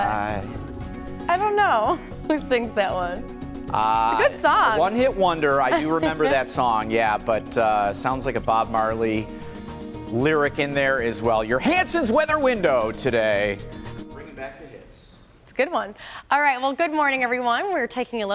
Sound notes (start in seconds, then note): 3.3 laughter